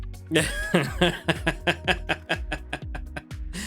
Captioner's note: laughing